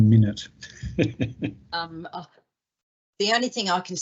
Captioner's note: chuckles